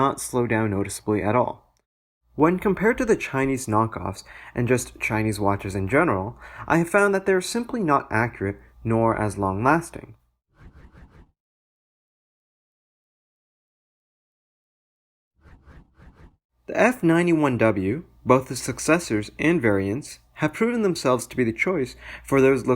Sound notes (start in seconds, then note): 10.6 transition swooshes